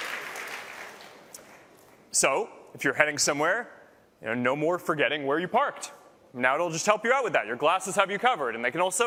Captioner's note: applause